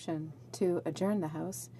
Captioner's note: speaking in french